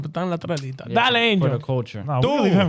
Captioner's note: speaking In Foreign Language